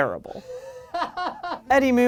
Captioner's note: laughs off camera